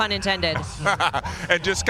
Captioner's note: laughter